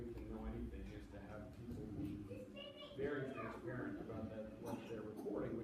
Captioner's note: child talking loudly